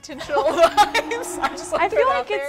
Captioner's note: laughing